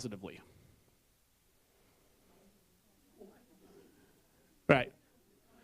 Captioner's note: background voices